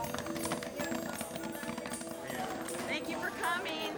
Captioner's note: popcorn pops